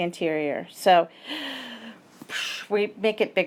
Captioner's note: gasps